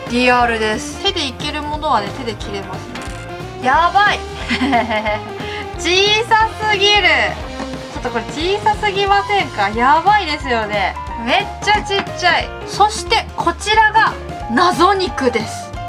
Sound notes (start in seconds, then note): 4.2 laughs